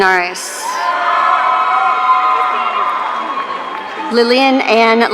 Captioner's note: audience cheering